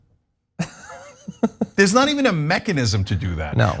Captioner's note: laugh